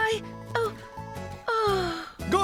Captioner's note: none